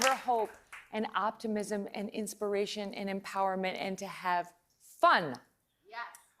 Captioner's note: applause